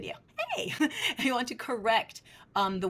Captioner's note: chuckles